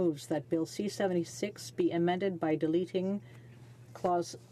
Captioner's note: speaking French